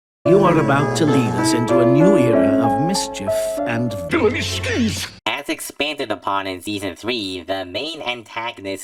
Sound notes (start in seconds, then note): 4.0 spoken like a hammy villain with blatantly villainous words